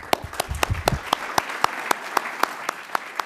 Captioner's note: applause